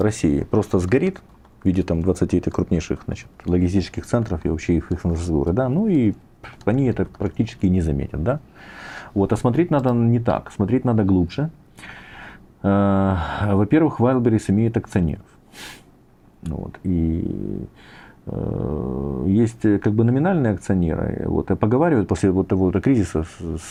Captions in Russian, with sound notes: России просто сгорит в виде там двадцати этих крупнейших, значит, логистических центров и вообще их ихры, да?" Ну и они это практически не заметят, да? Вот. Да, смотреть надо не так. Смотреть надо глубже. [вздыхает] Э, во-первых, Вайлберис имеют акционеров. [фыркает] Вот и ээ есть как бы номинальные акционеры. Вот поговаривают после вот того во-то кризиса